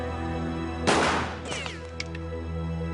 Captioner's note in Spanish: Disparo